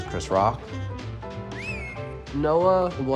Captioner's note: whistles